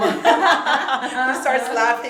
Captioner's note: both laugh